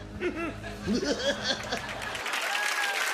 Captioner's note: giggles; cheering and applause